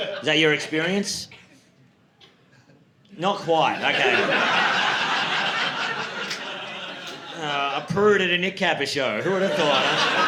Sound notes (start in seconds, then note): 3.6 audience laughing